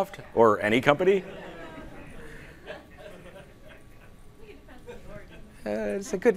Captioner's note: laughing